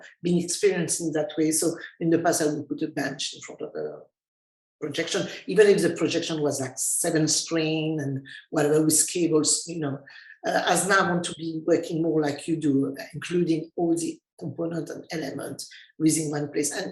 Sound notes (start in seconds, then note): none